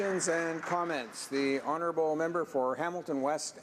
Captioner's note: some Applause